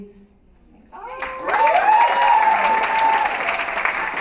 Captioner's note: cheering and applause